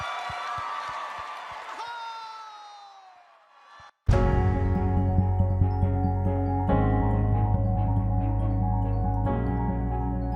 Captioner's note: cheers and Applause